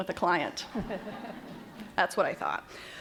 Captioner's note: laughter